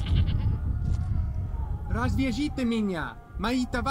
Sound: Aleksandr speaks Russian in Ukrainian accent

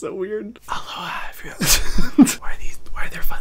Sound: laughs

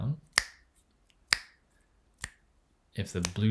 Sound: fingers snaps

